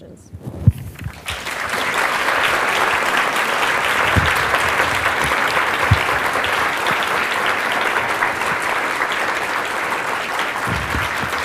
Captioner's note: applause